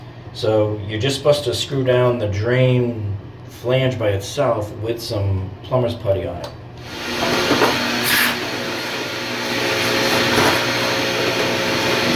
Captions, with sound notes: so you're just supposed to screw down the drain flange by itself with some plumber's putty on it. (vacuum roars)